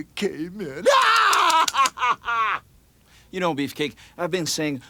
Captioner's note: scissors snipping; Brutus chuckling